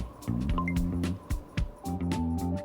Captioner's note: watch chimes